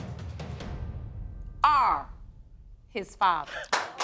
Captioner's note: audience applauding